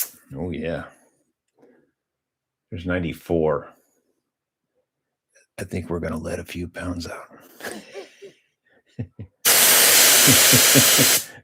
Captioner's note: laughter